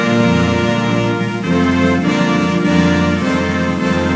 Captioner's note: none